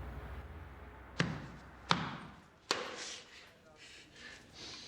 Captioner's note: banging